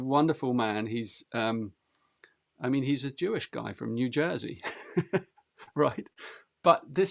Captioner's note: laughs